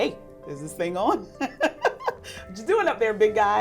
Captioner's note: laughs